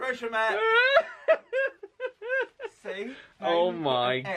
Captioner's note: laughs